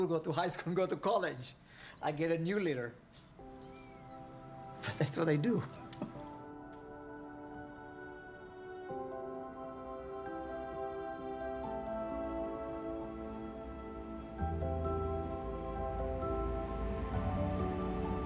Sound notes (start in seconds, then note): 4.8 kittens mewing; 7.9 gentle chiming music